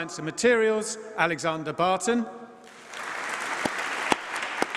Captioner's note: applause